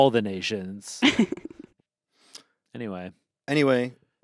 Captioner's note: laughs